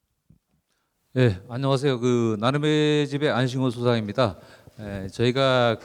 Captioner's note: speaking in foreign language